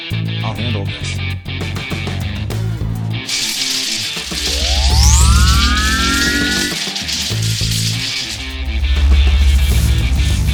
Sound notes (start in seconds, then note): 3.2 electricity crackling; 3.3 force field whirring